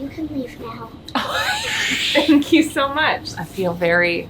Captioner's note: laughing